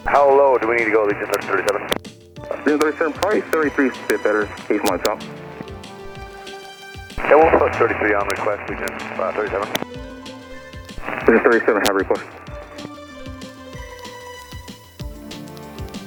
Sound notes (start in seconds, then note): 7.4 pilot talks over static; 11.4 Albuquerque Center talks over static